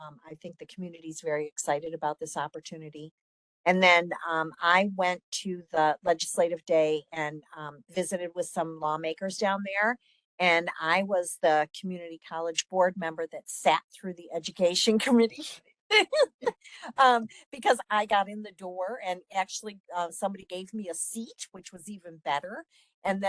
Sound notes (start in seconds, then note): 16.0 laughing